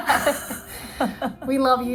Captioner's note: participants laugh